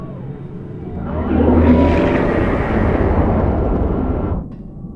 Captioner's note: engine roaring